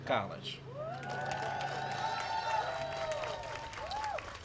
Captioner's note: applause